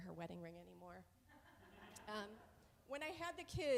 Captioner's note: audience laughs